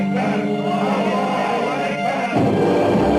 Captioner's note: crowd; dramatic music